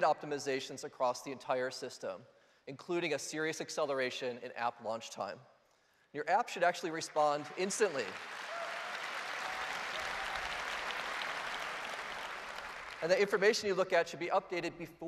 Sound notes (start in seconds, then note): 8.9 applause